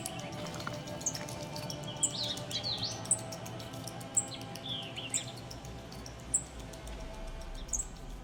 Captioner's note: birds chirping